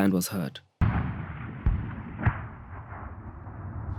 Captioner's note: artillery fires